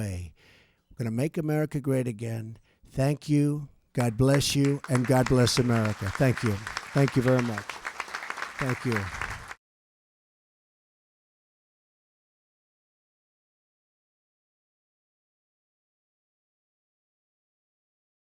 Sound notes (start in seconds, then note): 8.2 applause